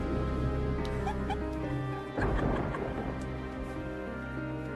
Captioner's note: giggles; eerie Tense Music